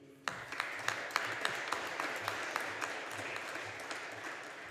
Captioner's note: audience applauding